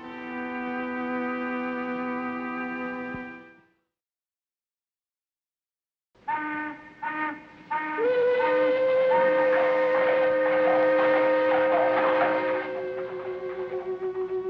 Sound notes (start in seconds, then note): 7.7 work whistles tooting; 8.7 gentle somber music; 9.1 horse hooves clomping